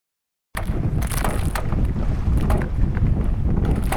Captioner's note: waves, pier sounds